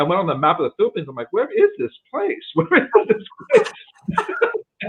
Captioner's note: laughs